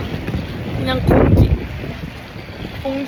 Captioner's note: wind noises, wow